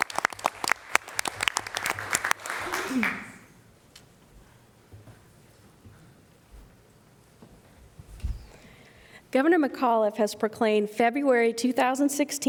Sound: applause

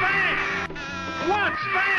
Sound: buzzer; bird squawk

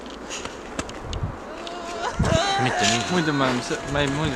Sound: crying

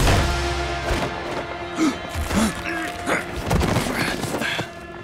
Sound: groaning

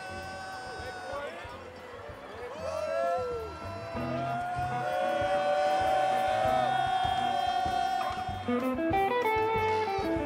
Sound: applause

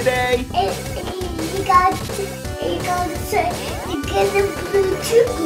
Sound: babbles excitedly

